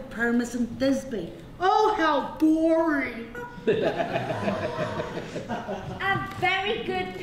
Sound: laughter

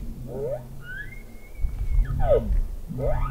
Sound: caller bugling

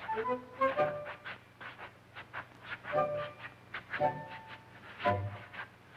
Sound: shoes shuffling rhythmically

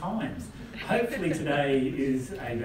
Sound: laugh

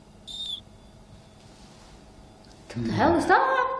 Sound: whistling

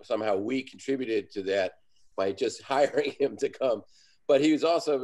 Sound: laughs

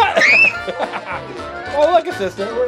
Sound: laughter; screaming

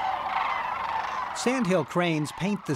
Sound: crane song

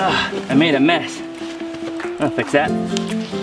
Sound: groans; snaps

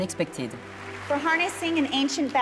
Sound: audience clapping

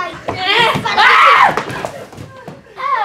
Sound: scream

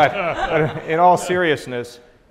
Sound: laughing

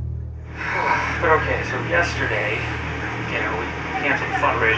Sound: sighs

